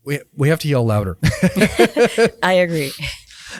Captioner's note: both laughing